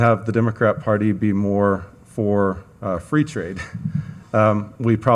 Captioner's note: chuckles